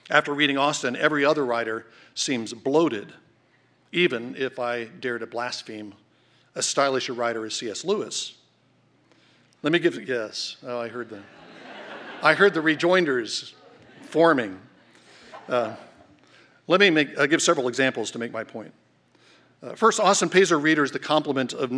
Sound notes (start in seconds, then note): 11.1 laughter